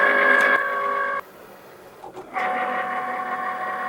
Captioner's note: machine whirring